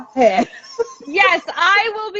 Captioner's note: laughing